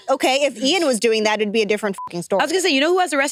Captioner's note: beep